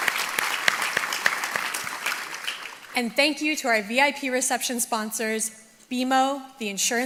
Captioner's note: applause